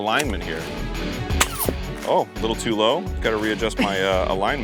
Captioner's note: pew